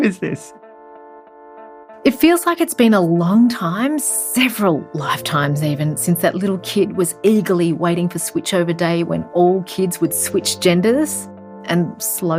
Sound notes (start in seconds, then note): 1.2 hopeful music; 2.6 voiceover